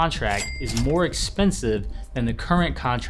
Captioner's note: cha-ching sound effect